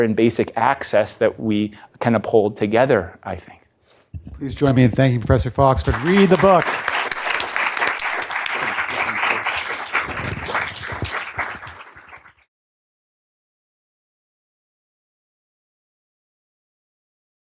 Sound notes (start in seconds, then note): 12.7 applause